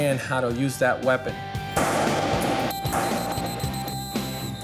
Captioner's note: whistles